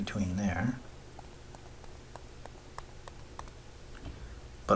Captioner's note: writing Sounds